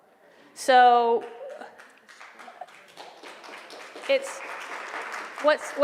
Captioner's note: applause